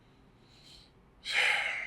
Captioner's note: sigh